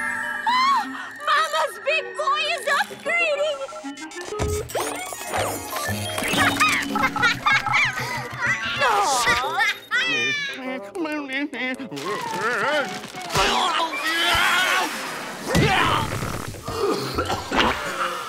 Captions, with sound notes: Oh, mama's big boy is upgrading! [laughing] Aww! [grumbling] Whoa, whoa! [screaming] [groaning] [gagging]